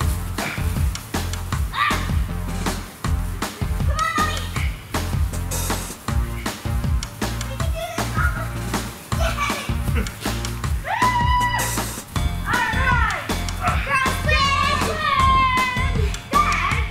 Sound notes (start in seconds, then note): 0.7 grunting; 14.3 cheering